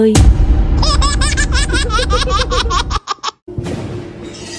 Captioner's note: dear laughter